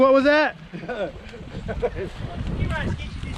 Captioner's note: laughing